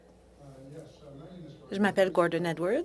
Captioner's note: speaking French